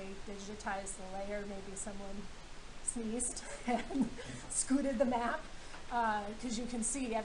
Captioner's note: laughing